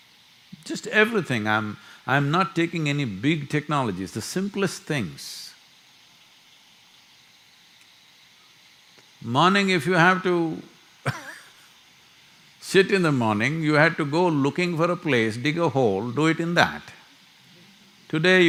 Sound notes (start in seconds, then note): 11.1 laughs